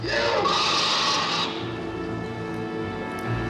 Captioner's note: jeritan